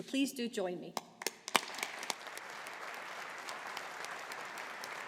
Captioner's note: audience applauding